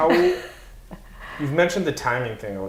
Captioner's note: laughs